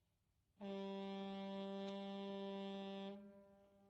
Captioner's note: foghorn Blows